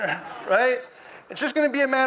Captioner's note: audience moans